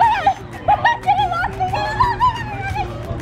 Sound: screaming

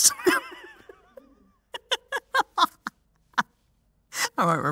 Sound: laughs

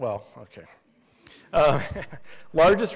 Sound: laughs

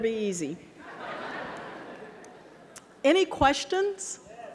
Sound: audience laughing

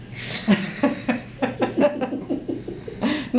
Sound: laughing

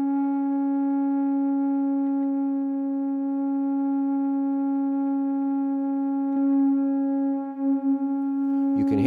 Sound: one long tone

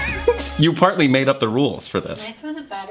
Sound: giggles

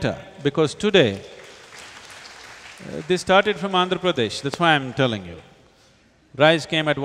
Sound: applause

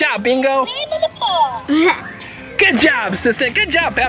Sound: toy talking

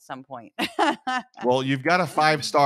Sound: laugh

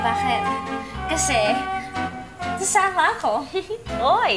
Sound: chuckles

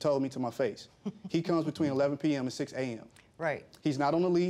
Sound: chuckles

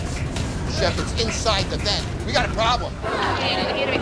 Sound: loud chatter

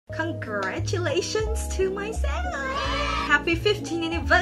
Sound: loud cheering

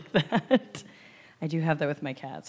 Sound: laughs

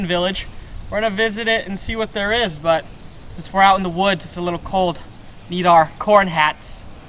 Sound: laugh

